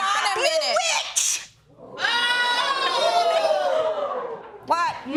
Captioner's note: audience whooping